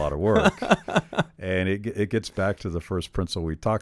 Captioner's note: chuckles